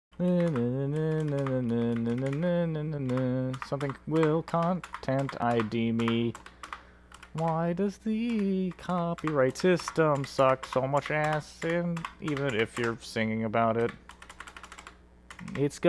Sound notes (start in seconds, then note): 0.0 humming